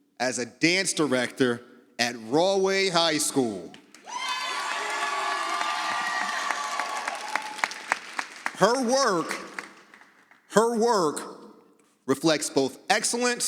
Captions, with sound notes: as a dance director at Rahway High School. (audience cheering) Her work reflects both excellence